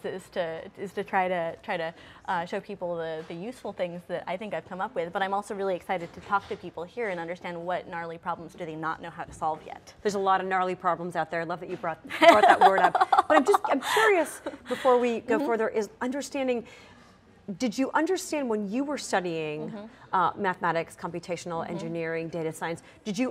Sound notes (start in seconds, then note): 12.2 laughter